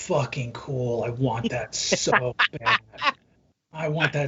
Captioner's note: laughing